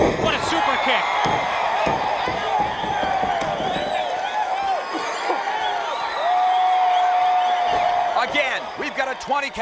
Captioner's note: applause